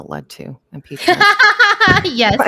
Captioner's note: laughs